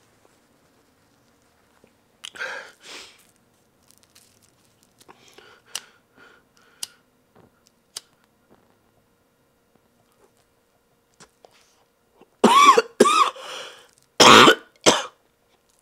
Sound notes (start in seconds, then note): 5.2 lighter clicking; 12.6 Cathelaya coughing